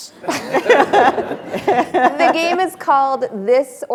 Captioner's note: attendees laughing